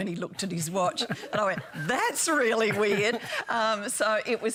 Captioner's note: laughter